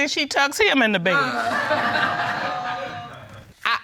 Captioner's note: audience laughs